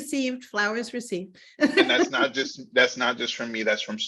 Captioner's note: laughing